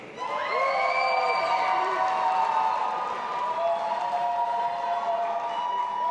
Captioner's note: audience applauding and cheering